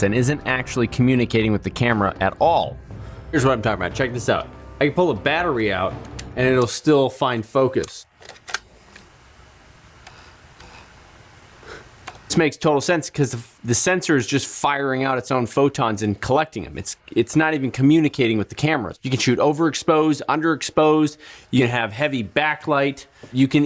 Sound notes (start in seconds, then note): 6.0 soft clicking sound; 8.3 object clattering; 10.0 motor whirling sound; 11.6 gentle gasp